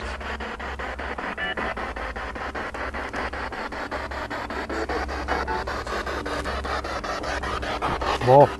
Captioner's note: noise of the spiritbox in the background